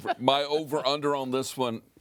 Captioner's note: all laugh